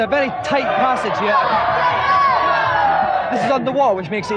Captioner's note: audience Cheering Encouragement